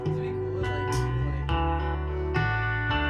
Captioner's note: chattering